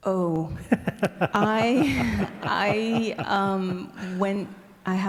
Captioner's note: laughing